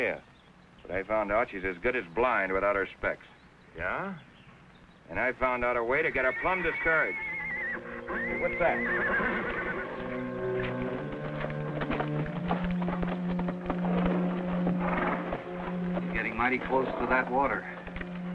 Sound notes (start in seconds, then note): 7.5 horse whinnies; 10.9 dramatic music